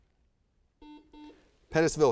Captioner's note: buzzer buzzes